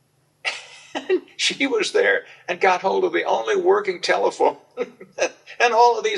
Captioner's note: laughs